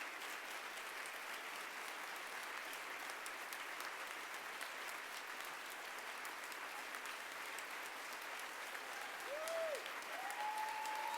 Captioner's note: applause